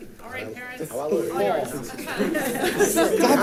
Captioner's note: crowd chatting; group laughing